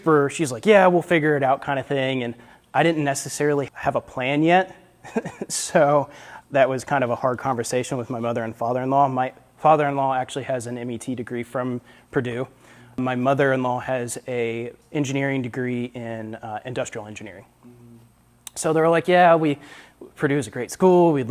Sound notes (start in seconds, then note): 4.6 laughs